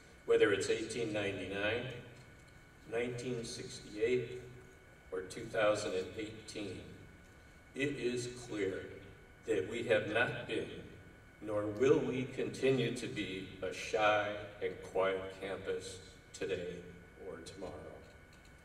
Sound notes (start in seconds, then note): none